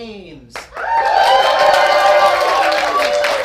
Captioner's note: cheering